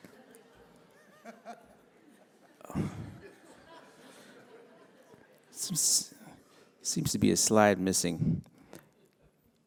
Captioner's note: laughter